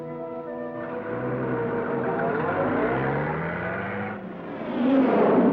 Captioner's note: vehicles rumbling